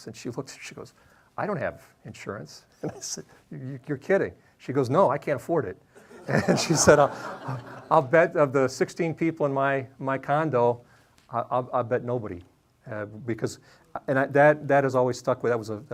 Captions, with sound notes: And she looked, and she goes, "I don't have insurance." And I said, "You're kidding." She goes, "No, I can't afford it." (audience laughing) And said, "I'll bet of the 16 people in my condo, "I'll bet nobody, because ..." And that has always stuck with me,